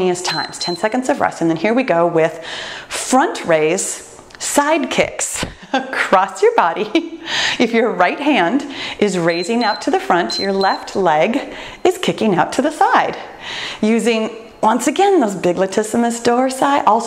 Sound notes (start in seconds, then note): 0.2 timer beeps; 9.2 timer beeps